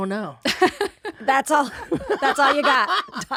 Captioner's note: laughs